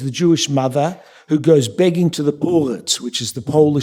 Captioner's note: yiddish